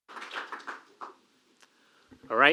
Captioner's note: applause